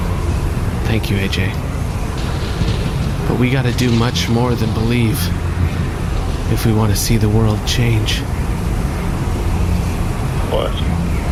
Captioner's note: dramatically